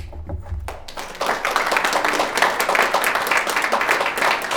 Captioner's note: audience applauding